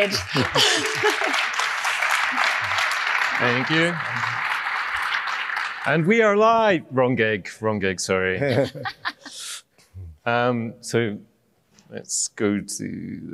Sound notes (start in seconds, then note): 0.0 applause; 8.4 laughter